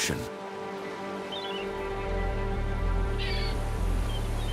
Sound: seagulls squawk

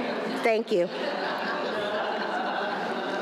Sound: laughing

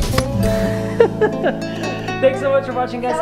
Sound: twangy lively music; laughs

